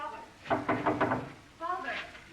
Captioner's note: knocking at door